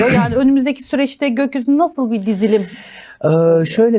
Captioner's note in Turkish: boğazını temizler